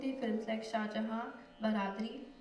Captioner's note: non-english speech